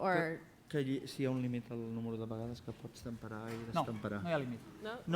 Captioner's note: non-english speech